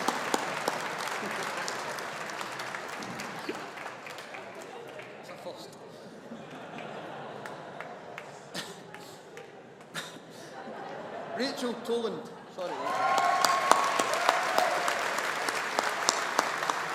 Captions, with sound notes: That's a first. (AUDIENCE CHUCKLES) Rachel Tolland. (AUDIENCE APPLAUDING)